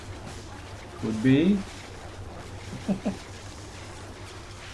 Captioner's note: chuckles